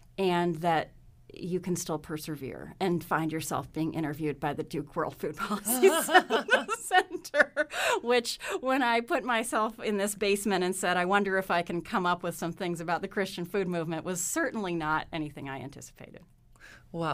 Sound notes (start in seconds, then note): 5.4 laughs